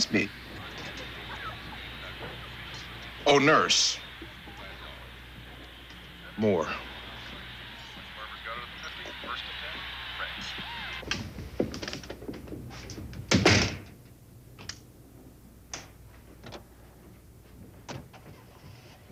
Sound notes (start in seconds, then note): 10.8 door clatters shut; 13.7 light switch clicks